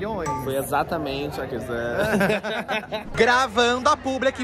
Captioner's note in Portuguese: risos